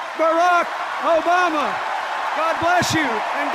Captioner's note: cheers and applause; sustained cheers and applause